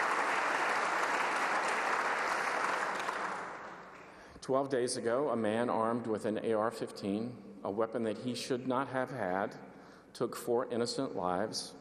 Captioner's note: applause